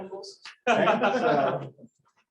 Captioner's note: laughter